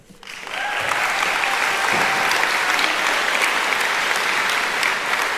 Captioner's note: applauding; cheering